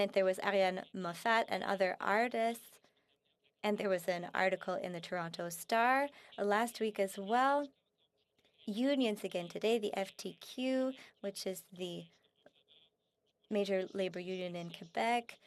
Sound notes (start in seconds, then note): 0.8 speaking French